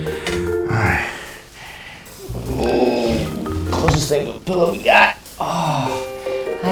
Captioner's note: groaning